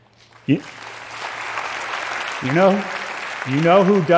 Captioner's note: applause